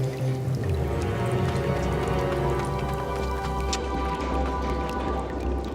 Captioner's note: sound of cave and water well